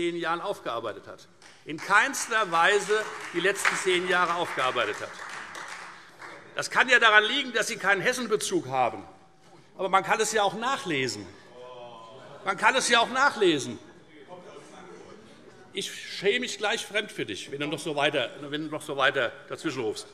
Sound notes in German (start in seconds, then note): 5.3 Beifall Freie Demokraten